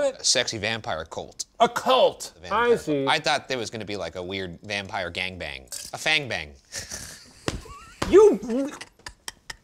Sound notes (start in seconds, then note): 6.9 laughs